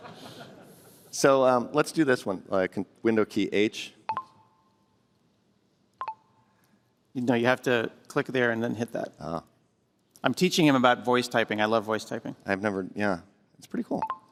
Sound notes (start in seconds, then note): 4.0 computer chirps; 14.0 computer chirps